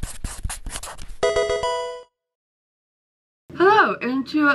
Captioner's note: pencil writing; Pokemon game sound